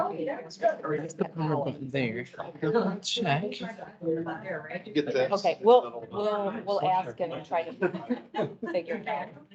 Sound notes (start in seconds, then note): 1.1 indistinct chatter